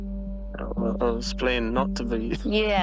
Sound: laughs

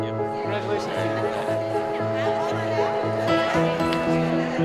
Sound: crowd murmuring

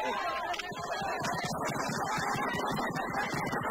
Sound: firecrackers

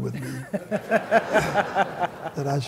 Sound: laughter

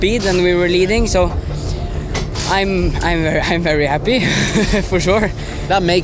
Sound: chuckles

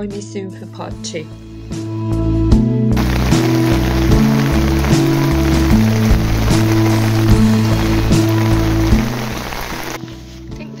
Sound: sound of heavy rain

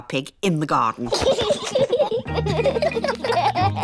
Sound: both laughing

